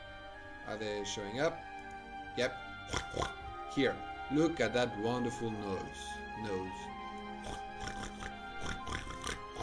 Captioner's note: pig sounds